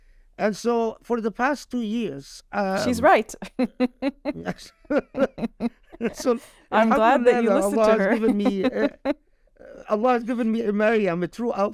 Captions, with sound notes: And so for the past two years. - She's right. (laughter) - So. - I'm glad that you listened to her. - Allah has given me a Maryam,